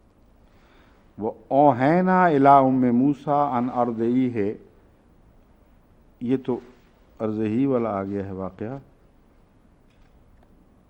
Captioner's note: Arabic